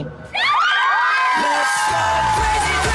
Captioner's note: cheerleaders cheering